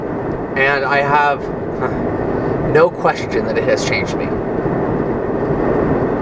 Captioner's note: laughs